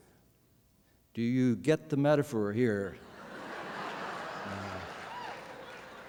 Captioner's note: laughter